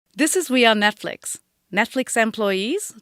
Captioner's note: voiceover